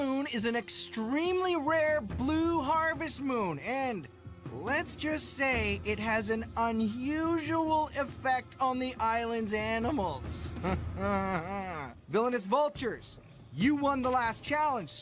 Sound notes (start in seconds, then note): 10.6 chuckling